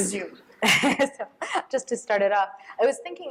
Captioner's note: laughs